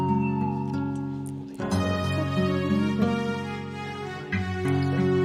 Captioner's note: group chattering